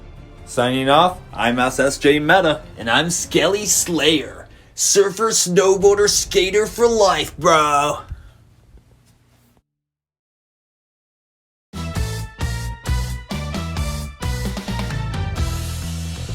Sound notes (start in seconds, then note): 3.3 Skelly Slayer/surfer accent; 11.8 upbeat music